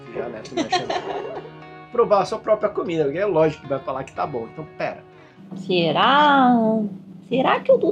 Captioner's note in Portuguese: risadas